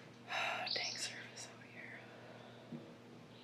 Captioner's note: sighs